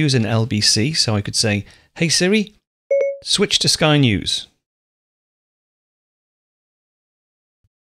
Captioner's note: beeps